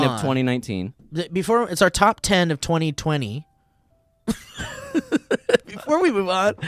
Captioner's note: laughing